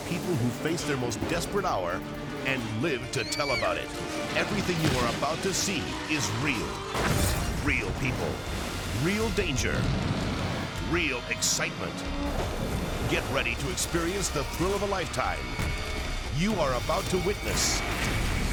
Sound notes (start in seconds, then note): 6.7 car crashes; 6.7 tires squealing; 12.5 water splashes